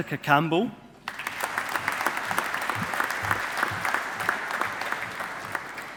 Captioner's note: audience applauding